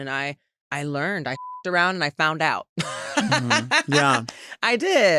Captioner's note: beep